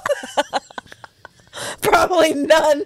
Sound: panel laughing

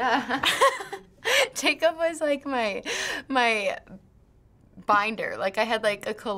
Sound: laughs

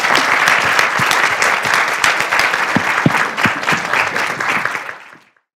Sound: applause

